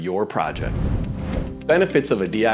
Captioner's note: video graphics whooshing